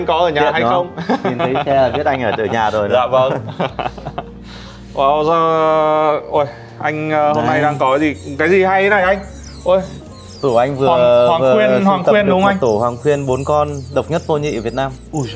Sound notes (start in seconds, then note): 4.2 laughing